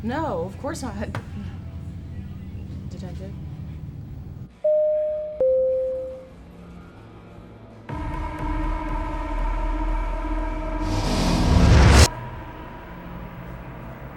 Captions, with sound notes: - No, of course not, Detective. (door entry bell dinging) (tense music)